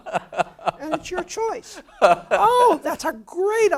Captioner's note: laugh